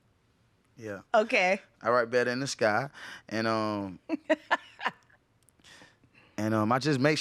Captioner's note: laughing